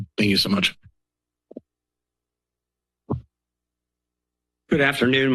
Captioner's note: silence